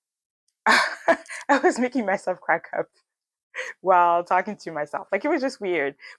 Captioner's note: laughs